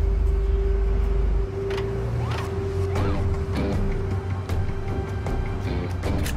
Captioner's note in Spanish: Ruido del vehículo